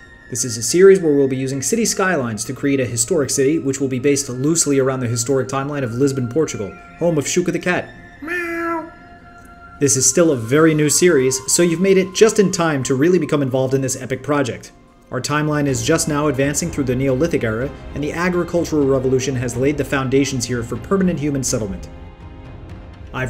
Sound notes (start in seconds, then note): 8.2 meow